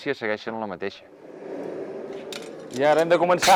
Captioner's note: blast from the furnace